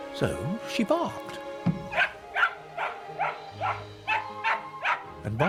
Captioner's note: mist yaps